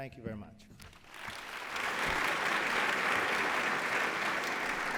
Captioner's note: applause